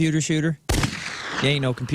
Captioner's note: gunshot